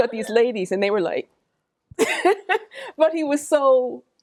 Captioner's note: laughs